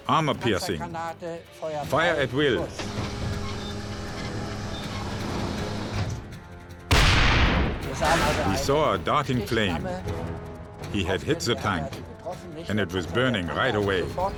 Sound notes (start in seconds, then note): 2.6 tank turret whirring; 6.8 tank turret firing; 6.9 tank exploding